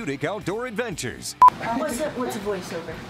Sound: beep

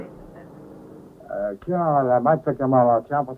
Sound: Swedish spoken audio

